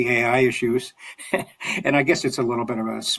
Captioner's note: chuckles